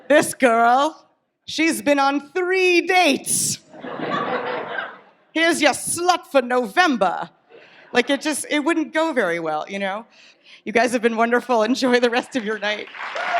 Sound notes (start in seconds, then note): 3.7 audience laughs